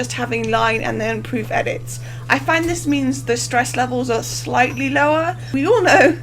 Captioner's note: laughing